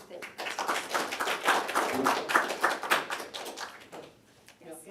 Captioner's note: applause